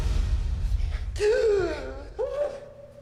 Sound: gasps

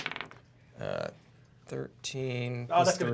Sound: dice clacks

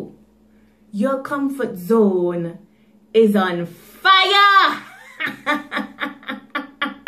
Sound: laughing

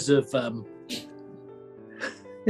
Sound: sniggering; chuckling

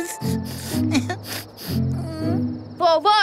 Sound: sniffling

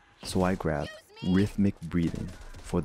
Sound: rhythmic Breathing

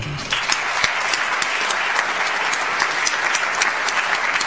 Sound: audience applauds

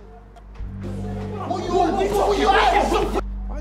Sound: shouts

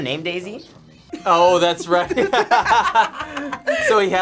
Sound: both laugh

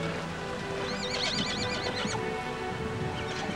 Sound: whinnying

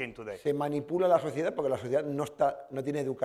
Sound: speaking spanish

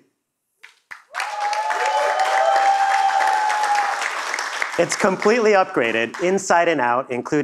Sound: cheers and Applause

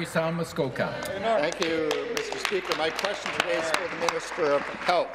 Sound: applause

